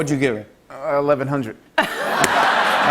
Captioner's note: laughter